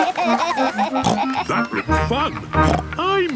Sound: giggling; snorts; snorts

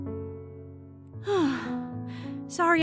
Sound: exhale

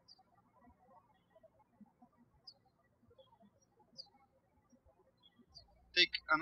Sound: birds chirping

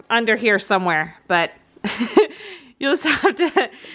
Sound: laughs

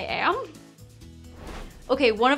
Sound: air whooshing

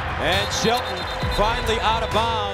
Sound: whistle blowing

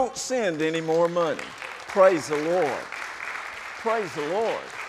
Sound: applauding

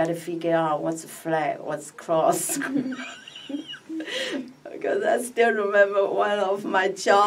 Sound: laughs

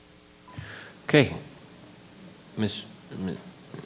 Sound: microphone beeping

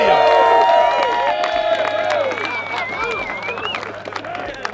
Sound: cheering

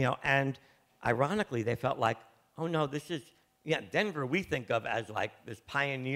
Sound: none

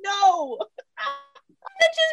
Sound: laughter

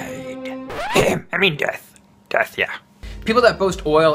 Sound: coughs

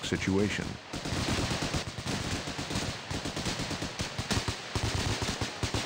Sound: rapid, continuous gunfire

